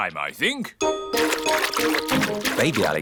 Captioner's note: splashing